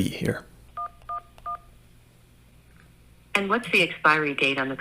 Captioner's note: phone beeps